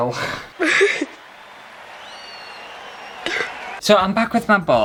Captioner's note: crying